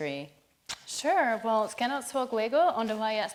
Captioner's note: speaking foreign language